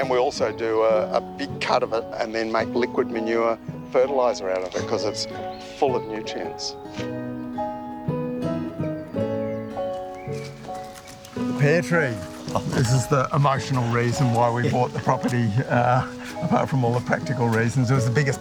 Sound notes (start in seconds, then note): 11.7 chuckles